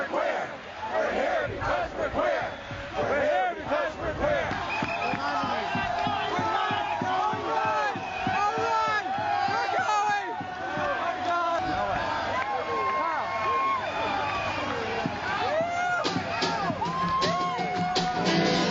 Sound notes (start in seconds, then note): 0.2 crowd chanting; 4.2 crowd cheering. indiscernible